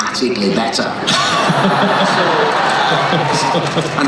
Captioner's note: laughing